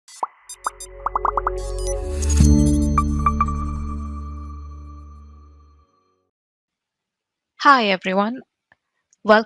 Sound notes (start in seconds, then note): 0.1 soft electronic music; 1.0 bubbles popping